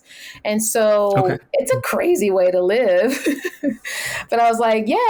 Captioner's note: laughs